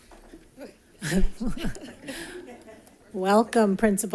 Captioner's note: laughs